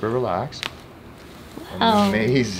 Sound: bones cracking

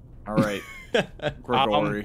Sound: giggle

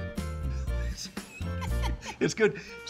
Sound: both laughing

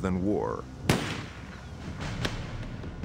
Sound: gunshot

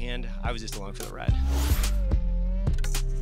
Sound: whoosh

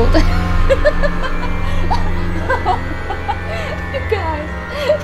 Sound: laughing

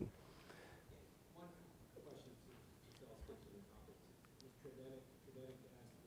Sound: board member faintly speaking

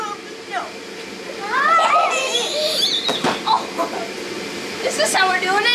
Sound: childrens laughter

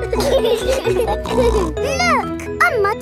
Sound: laughing

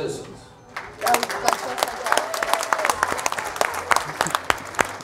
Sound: clapping and cheering

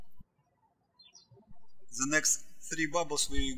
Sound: birds chirping

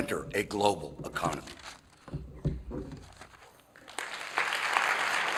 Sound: applause

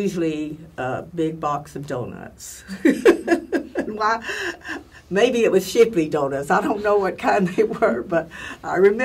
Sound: laugh

